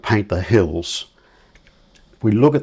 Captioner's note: silence